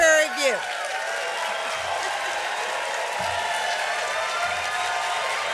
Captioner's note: cheering